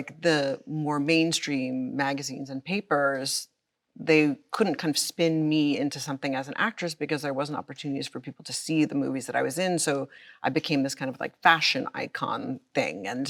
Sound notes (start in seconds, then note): none